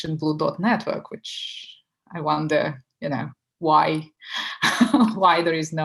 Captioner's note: laughing